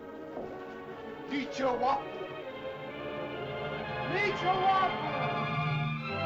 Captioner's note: suspenseful music; speaking in caveman language; triumphant music